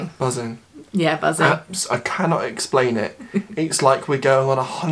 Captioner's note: giggles